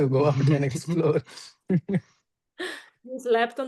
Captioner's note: laughing